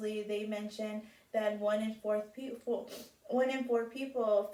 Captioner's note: sniffs in